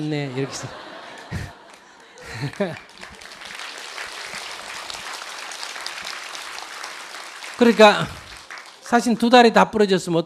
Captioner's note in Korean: 청중웃음, 박수